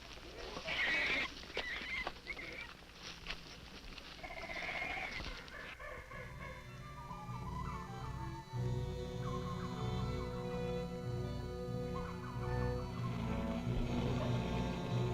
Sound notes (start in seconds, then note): 4.2 animals chittering; 4.6 tense orchestral music